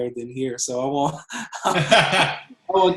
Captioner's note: laughs